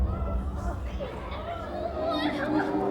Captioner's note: audience reacts; sobbing